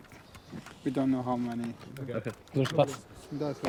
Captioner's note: speaking foreign language